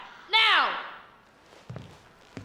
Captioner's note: yells